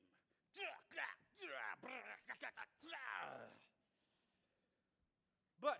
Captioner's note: mimicking grunts of combat